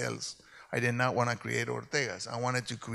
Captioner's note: speaks in Spanish